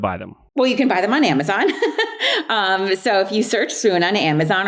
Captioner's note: laughs